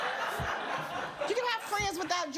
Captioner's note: audience laughs